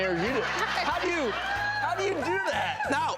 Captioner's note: audience laughing